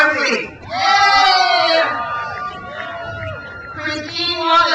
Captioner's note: crowd cheers